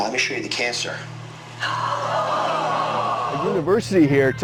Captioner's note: audience gasping